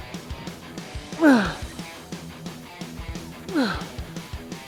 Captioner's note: upbeat rock music; Ethan grunting